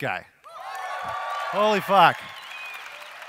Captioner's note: audience cheers